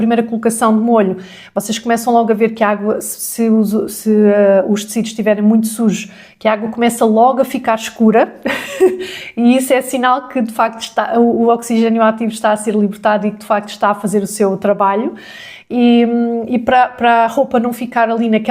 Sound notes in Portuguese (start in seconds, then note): 8.4 risadas